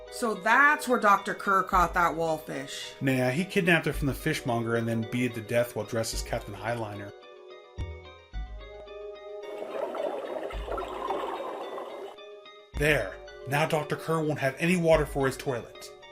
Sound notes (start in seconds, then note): 9.4 sound of a drain emptying is heard